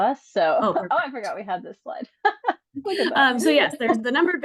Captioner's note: laughs